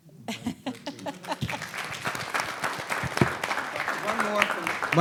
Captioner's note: laughing; audience applauding